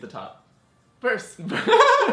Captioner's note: laughs